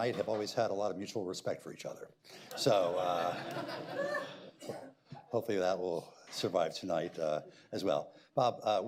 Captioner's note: laughter